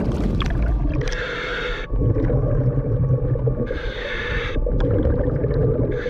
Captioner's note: breathing through regulator